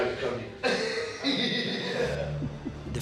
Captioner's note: laughing